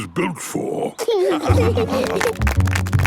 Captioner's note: laughing; clapping